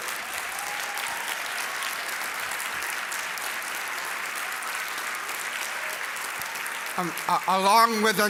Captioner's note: applause